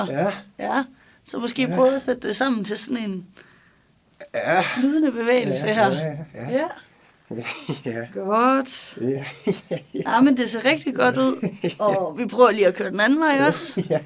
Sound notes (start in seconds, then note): 7.3 laughs